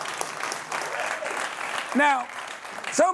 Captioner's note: applause